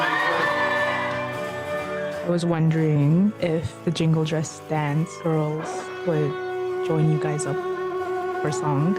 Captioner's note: cheers and Applause